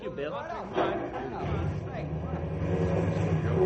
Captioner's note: engine revving